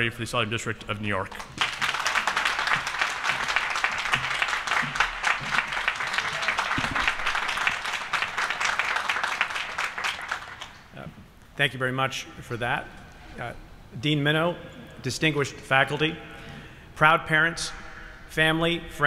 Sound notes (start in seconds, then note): 2.2 applause